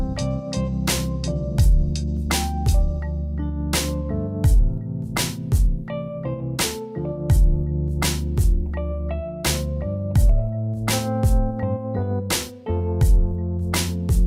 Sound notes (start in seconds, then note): none